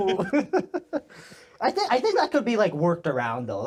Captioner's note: laughing